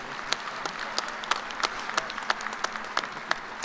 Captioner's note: applause